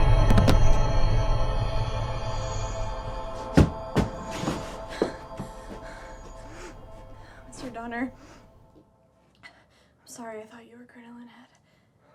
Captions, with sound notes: (body thuds) (Shelby breathing heavily) - Mr. Donner, I'm sorry I thought you were Crinoline Head.